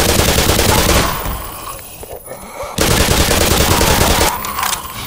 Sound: more groans

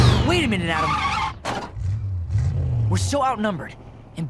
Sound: brakes screech

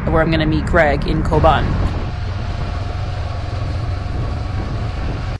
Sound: motorbike engine roaring

